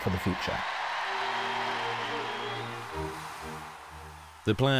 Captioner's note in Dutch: publiek juicht